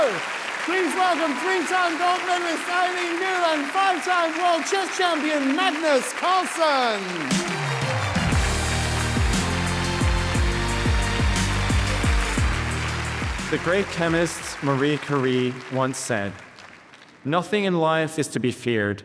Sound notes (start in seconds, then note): 7.1 upbeat music; 8.6 audience applauding